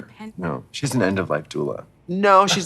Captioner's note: scoffs